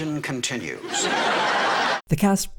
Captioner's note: audience laughter